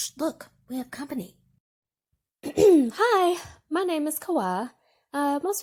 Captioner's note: clears throat